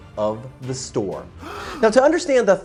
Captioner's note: gasping